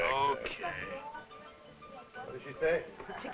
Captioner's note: speaking foreign language